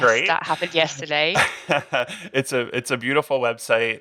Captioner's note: laughing